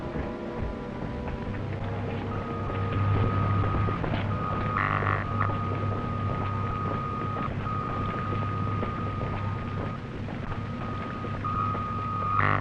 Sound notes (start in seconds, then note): 1.6 high-pitched droning